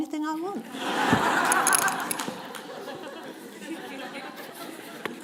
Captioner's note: laughter